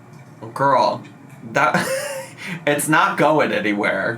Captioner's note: laughs